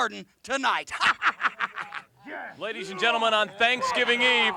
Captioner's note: laugh